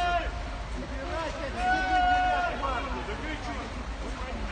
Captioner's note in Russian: Прохожие кричат